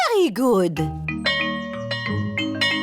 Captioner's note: bell chimes